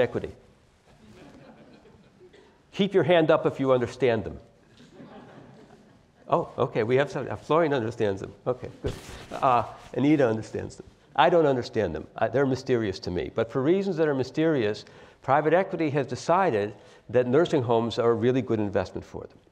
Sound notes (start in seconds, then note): 1.0 laugh; 4.6 laugh